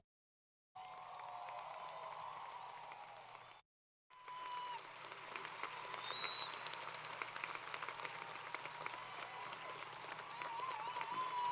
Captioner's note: applause & Cheering